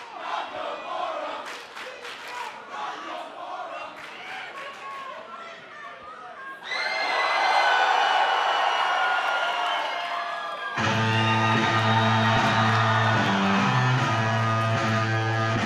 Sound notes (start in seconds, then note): 8.5 cheers and applause